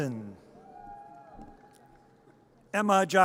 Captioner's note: audience cheers